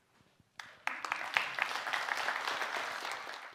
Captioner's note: applause